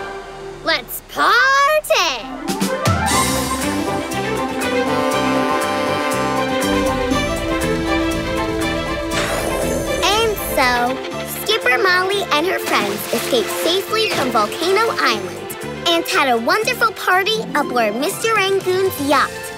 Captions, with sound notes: Let's party! [horn blowing] And so, Super Molly and her friends escaped safely from Volcano Island and had a wonderful party aboard Rangoon's yacht.